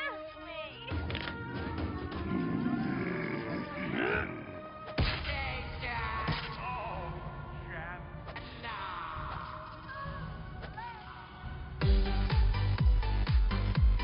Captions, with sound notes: [growling] [TV Audio continues] -Oh, Janice! -Nooo! Oh, Lance.